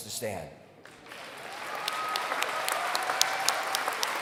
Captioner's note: applause